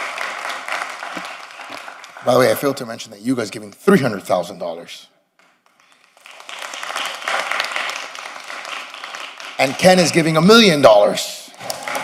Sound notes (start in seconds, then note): 1.4 applause